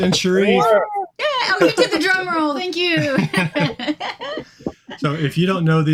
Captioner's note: chuckling